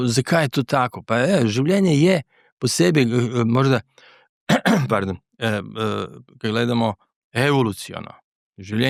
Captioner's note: clears throat